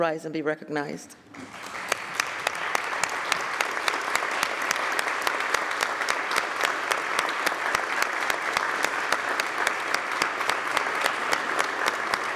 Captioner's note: applause